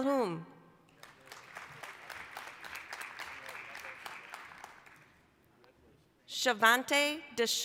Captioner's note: applause